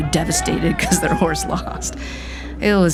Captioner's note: laughing